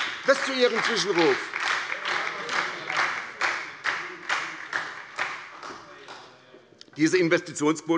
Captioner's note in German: Beifall bei der SPD